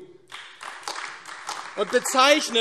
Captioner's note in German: Beifall AfD